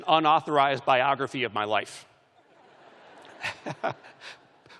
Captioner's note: laughter; chuckling